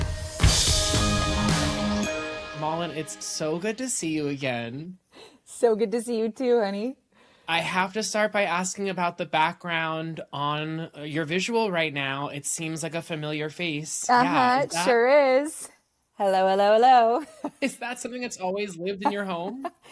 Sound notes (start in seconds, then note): 17.1 laughs